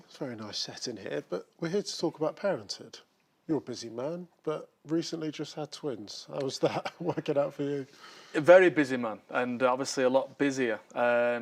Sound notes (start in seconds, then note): 6.6 laughs